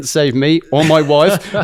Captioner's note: laughs